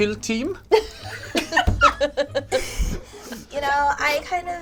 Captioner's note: all laugh